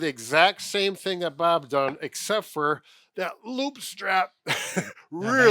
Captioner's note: chuckles